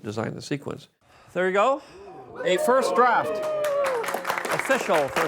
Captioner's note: applause, cheering